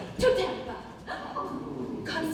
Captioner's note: ensemble oohs